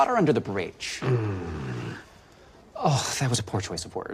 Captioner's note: Gowen groans